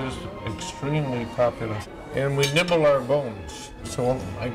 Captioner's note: none